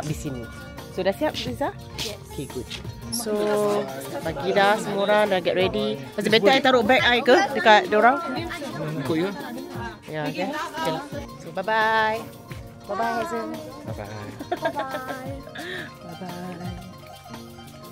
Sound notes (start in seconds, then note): 16.5 laugh